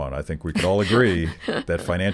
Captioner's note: chuckling